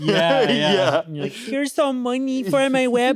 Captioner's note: chuckles